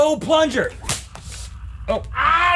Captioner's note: whip crack